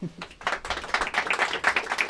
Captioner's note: applause